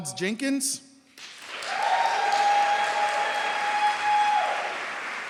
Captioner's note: applause